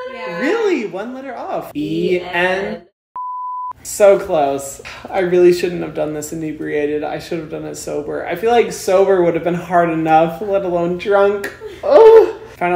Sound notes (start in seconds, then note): 3.1 beep